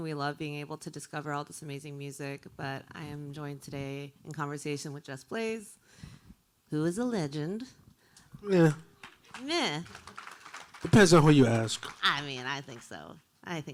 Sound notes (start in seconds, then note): 9.0 applause